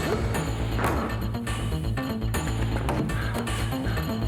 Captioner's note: John grunts; upbeat music